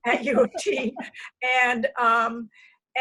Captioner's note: laughter